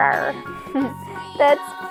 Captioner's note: laughs